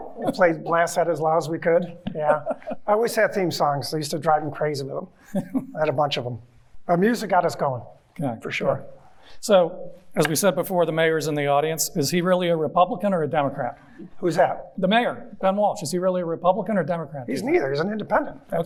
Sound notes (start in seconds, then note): 5.3 chuckling